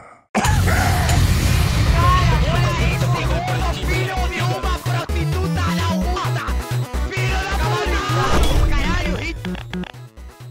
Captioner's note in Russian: еще немного криков